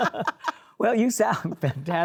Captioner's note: laughs